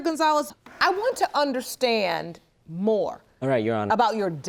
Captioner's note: none